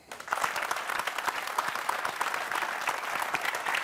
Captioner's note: applause